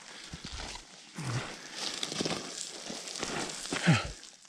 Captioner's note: gravel crunching